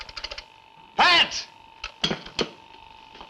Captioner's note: dial tone